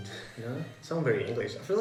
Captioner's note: laughs